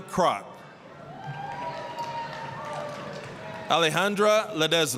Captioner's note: applause, cheering